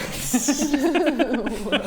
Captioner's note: laughs in miraculous understanding